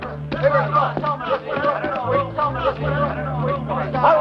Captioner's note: shouting